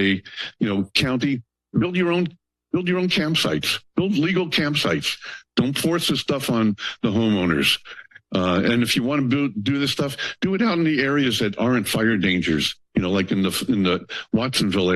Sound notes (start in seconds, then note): none